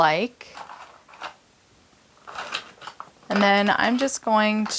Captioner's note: markers rattling